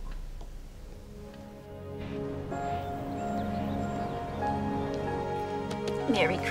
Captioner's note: light dramatic music; light music; birds chirping